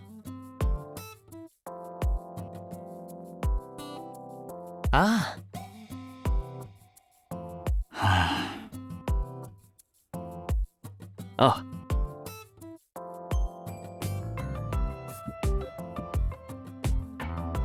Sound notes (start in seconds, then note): 7.9 sighs